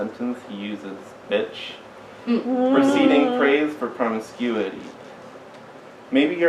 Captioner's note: audience hmms